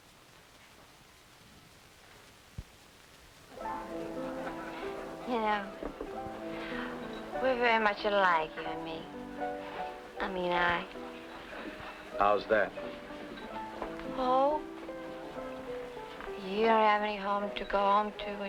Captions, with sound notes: (upbeat music) (party goers chattering) - You know, we're very much alike, you and me. I mean I. - How's that? - Oh, you don't have any home to go home to